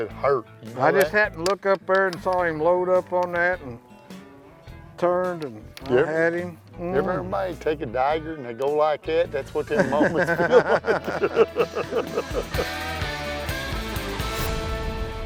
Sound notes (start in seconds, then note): 9.7 laughter